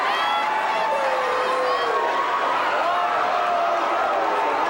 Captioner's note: fans shouting